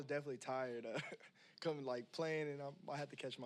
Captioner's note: chuckles